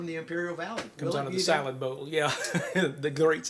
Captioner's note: chuckles